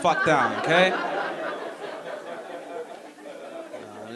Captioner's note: audience laughing